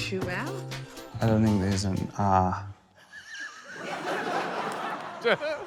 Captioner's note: wheezes; laughter